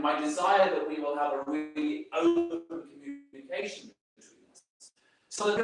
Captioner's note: video stuttering